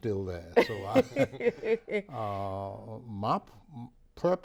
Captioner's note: laughs